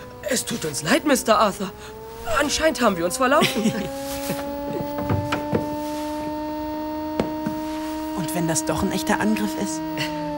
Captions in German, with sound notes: Es tut uns leid, Mr Arthur! Anscheinend haben wir uns verlaufen. (Sirene) Und wenn das doch ein echter Angriff ist?